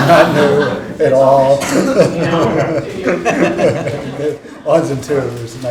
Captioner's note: panelists and audience laughing